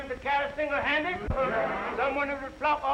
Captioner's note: all chattering